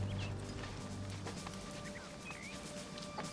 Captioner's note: birds chirping